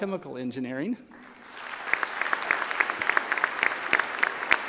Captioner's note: applause